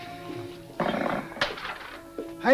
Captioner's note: Vince sighs; coins clatter